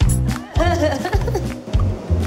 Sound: quirky music plays; employees giggling

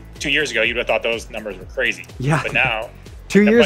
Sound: chuckling

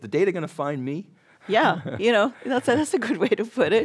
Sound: laughs

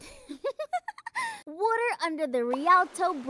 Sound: laughing

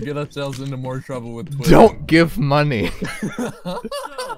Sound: laughs

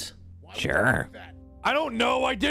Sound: distant Solar talking

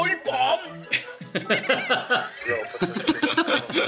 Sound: only one laughing

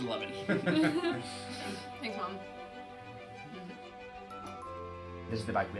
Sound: laughs

